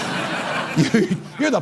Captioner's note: laughter